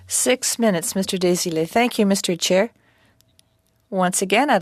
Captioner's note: speaking French